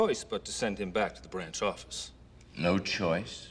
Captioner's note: none